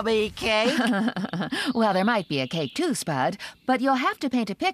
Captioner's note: chuckling